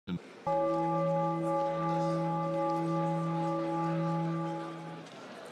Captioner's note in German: Gong